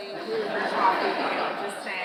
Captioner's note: audience laughing